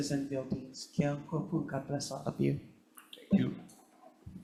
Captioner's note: speaks Hawaiian